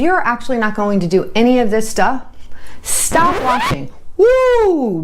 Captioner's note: record scratching